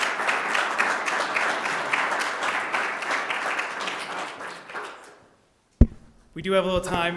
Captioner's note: applause